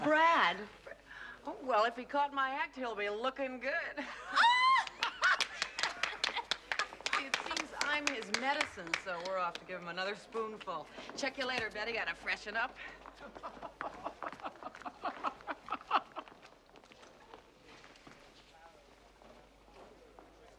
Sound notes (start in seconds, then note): 4.1 Смеется; 14.8 Смеется